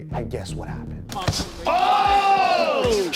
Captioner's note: cheering